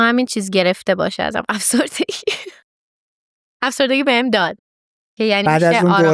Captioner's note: laughs